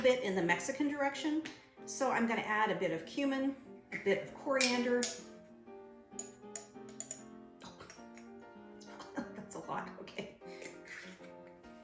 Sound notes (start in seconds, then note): 8.8 laughs